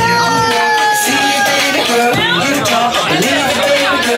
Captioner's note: person cheering